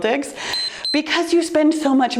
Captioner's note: timer beeps